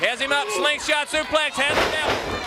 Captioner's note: crowd cheering